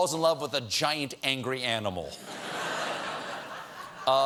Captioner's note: laughter